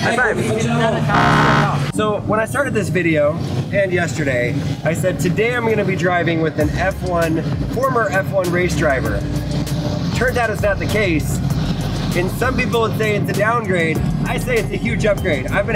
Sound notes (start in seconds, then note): 1.1 buzzer goes off